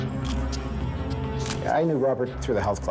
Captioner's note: camera shutter click